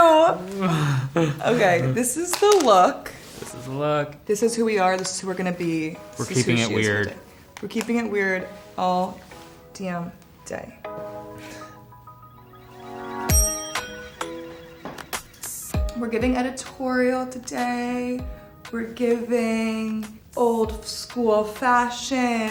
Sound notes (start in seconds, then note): 10.3 gentle music; 12.3 bell chimes; 13.7 gentle music continues